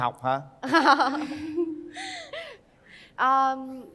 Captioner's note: laughter